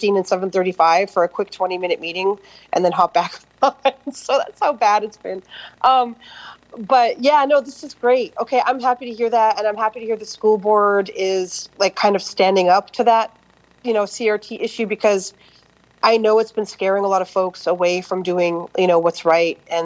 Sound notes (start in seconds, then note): 3.9 laughter